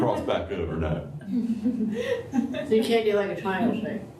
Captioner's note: laughter